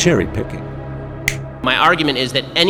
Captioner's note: snap